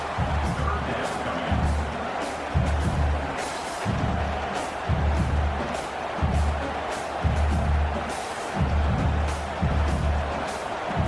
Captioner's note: crowd Noises